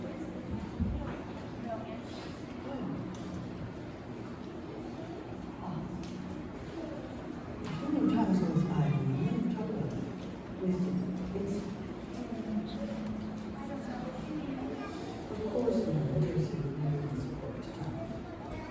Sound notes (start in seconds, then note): none